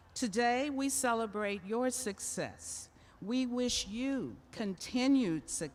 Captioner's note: none